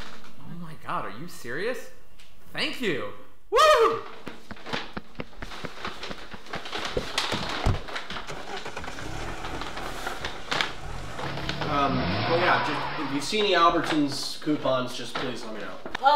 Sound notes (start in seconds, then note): 4.0 footsteps running away; 7.1 car door opening; 7.5 car engine starting; 7.6 car door closing; 10.7 car driving off